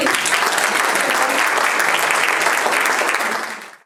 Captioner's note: audience claps